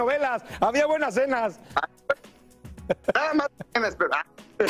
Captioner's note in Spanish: risas